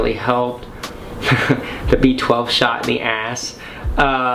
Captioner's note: chuckles